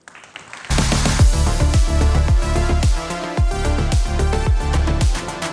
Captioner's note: applause